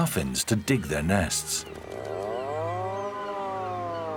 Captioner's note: mating call